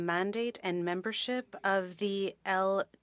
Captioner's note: speaking French